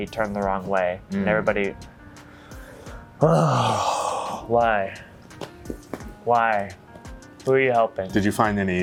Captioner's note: sigh